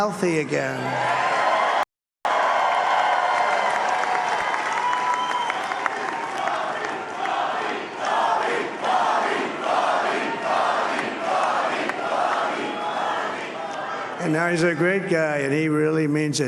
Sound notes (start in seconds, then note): 0.2 applause; 6.2 cheering